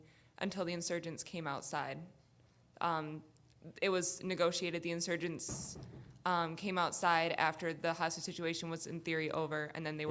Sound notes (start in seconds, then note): none